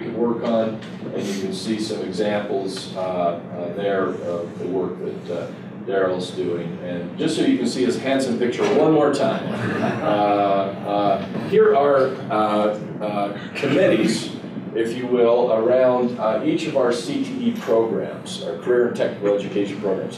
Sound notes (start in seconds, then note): 9.5 laughter